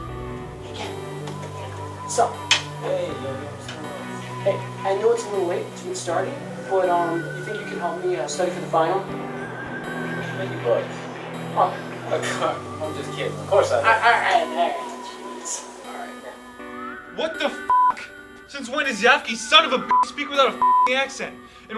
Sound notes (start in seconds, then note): 12.1 laughs